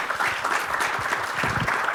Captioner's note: applause